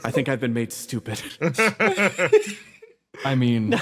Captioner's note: laughs